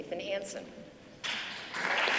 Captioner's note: applause